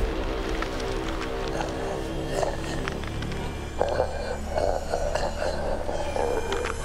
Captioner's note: bones cracking; zombie growling